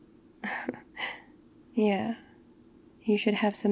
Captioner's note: laughs